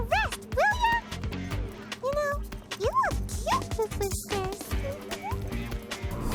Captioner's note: giggles